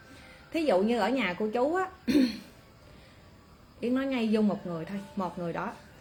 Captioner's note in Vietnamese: hắng giọng